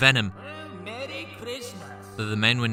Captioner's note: distant sarcasm: “Oh, Merry Christmas, gentlemen!”